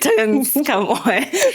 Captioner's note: laughing